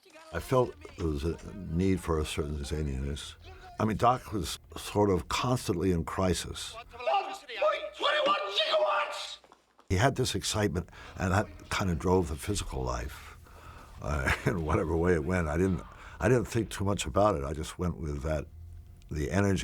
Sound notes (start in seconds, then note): 14.0 chuckling